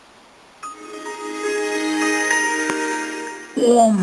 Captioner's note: sound of epicness